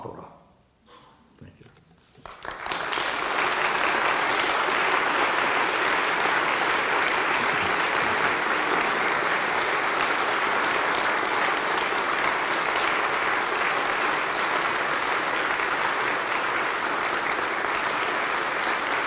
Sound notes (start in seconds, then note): 2.3 applause